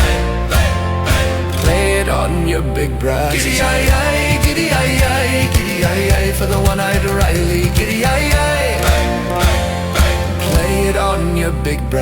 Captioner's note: bang, bang, bang